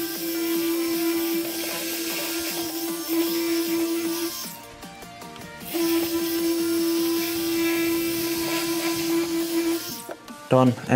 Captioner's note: polishing